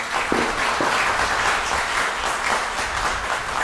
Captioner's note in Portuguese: aplausos